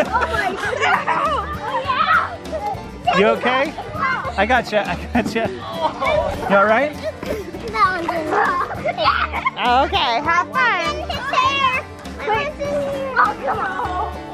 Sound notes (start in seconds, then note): 0.0 laughter and screeching; 4.9 laughing; 14.1 chattering